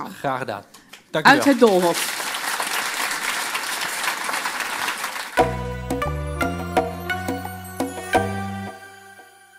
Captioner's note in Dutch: Applaus en Muziek